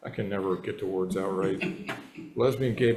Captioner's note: members chuckling